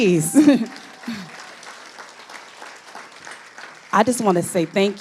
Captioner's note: audience applauding